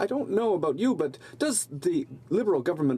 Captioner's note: speaking French